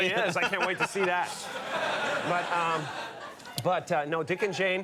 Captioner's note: audience laughs